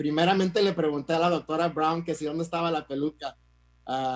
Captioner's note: speaks in Spanish